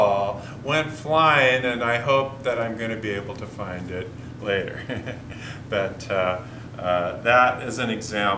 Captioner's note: chuckle